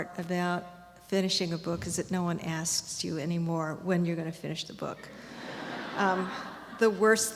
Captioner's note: laughter